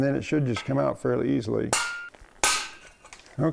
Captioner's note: hammer clanging